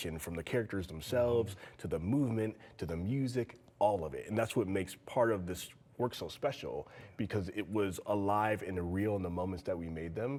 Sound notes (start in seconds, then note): none